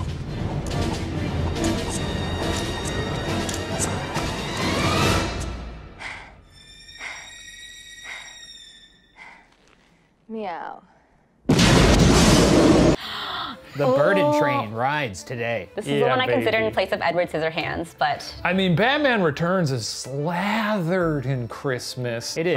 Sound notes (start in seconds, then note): 0.0 dramatic classical music; 6.1 panting; 11.4 exploding